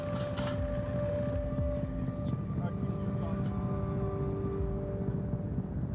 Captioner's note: gate rattles